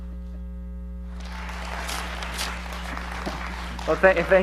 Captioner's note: audience applauds